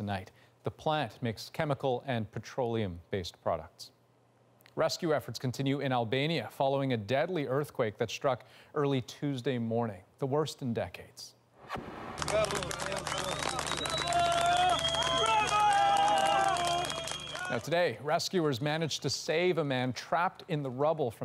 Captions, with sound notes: CONTINUE TO FIGHT THAT TOXIC BLAZE TONIGHT. THE PLANT MAKES CHEMICAL AND PETROLEUM-BASED PRODUCTS. >>> RESCUE EFFORTS CONTINUE IN ALBANIA FOLLOWING A DEADLY EARTHQUAKE THAT STRUCK EARLY TUESDAY MORNING. THE WORST IN DECADES. [Applause] >> BRAVO! >> BRAVO!